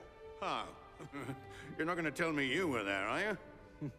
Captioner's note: chuckles